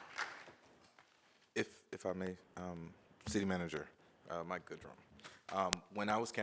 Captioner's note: applause